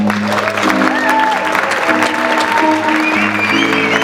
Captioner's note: audience clapping